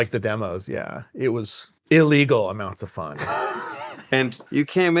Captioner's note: laughing